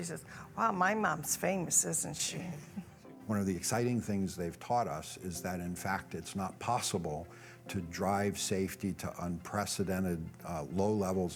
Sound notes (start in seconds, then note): 2.6 laughter